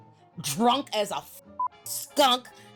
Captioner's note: beep